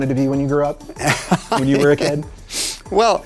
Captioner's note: laughs